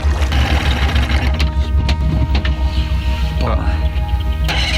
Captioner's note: engine revving